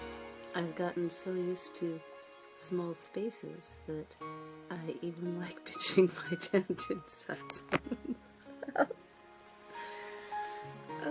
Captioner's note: dissolves into laughter